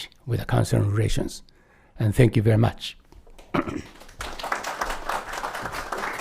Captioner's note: applause